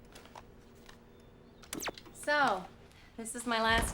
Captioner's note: tv turns off